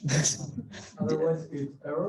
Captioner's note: laughing